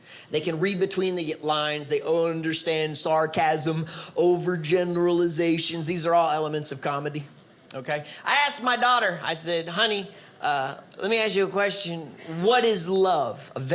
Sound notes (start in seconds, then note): none